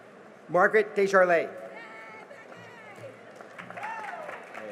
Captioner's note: cheering and applause